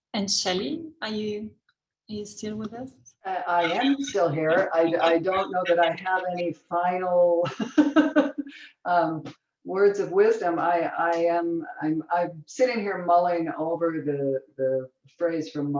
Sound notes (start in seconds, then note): 7.4 chuckles